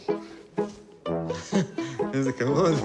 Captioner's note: chuckles